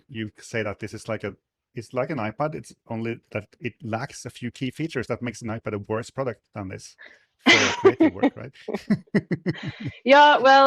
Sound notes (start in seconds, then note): 7.4 laughing